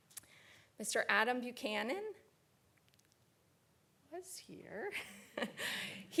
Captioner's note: laughs